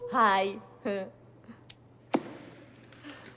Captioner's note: chuckles